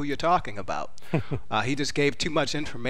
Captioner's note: chuckles